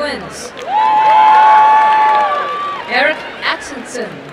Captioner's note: crowd cheering and applauding